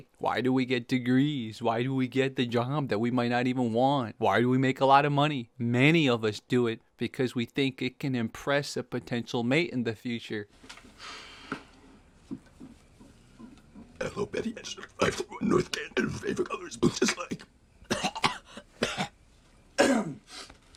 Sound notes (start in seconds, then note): 10.9 exhale; 10.9 inhales air into his stomach; 17.8 cough; 19.8 clears throat